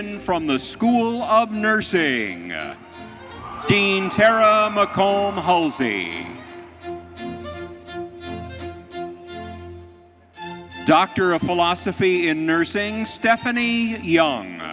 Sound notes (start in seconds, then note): 5.7 audience cheering; 7.1 bright orchestral music continues